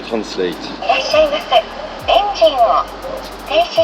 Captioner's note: Japanese voice